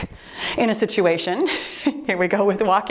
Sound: timer beeps

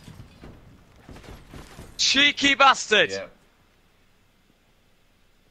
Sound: none

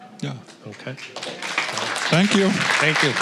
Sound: applause

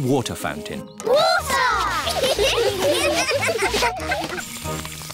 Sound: laughter

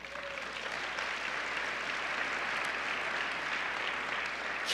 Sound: applause

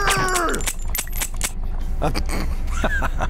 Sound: empty gun clicking; laughing

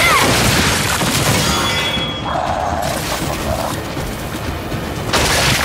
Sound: gunshots

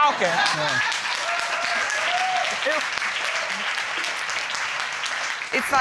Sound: audience applauding

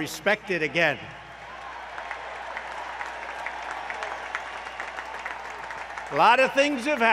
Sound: applause

